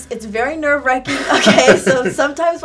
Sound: laughing

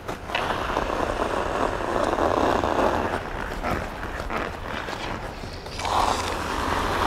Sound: gloves rubbing; skates scraping; glove rubbing; skates scraping

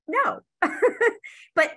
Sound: laughs

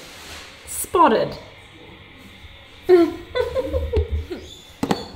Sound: laughs

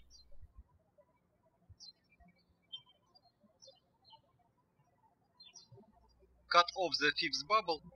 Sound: birds chirping

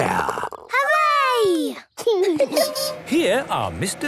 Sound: laughing

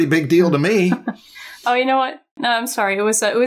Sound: chuckles

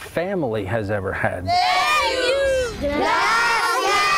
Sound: kids yelling

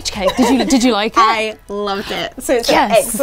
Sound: laughing

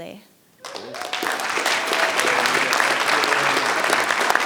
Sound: audience applauding

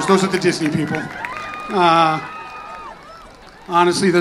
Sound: audience cheers and laughs

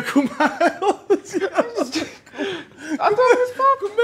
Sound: laughs

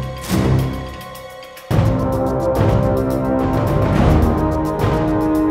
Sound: powerful downbeat, booming deep tuba ship's horn

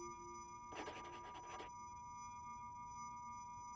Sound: pen scratching

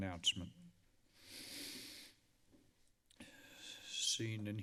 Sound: breathing heavily

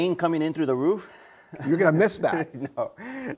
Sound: laughing

